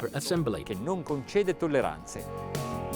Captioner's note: speaks Italian; upbeat music